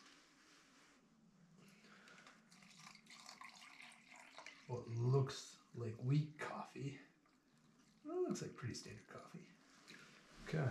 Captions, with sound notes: (slurping) Well, it looks like weak coffee.